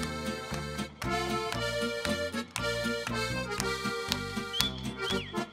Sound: hands clapping

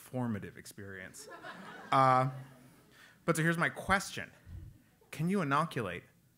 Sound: laugh

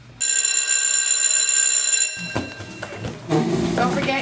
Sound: bell rings

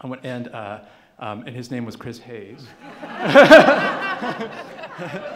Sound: laughing

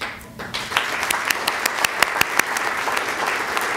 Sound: applause

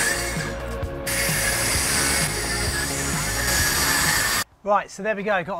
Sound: saw screeches

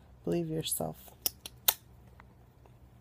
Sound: kiss noises

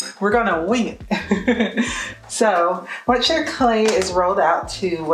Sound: laughs

